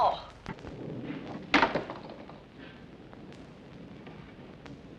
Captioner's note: slight pop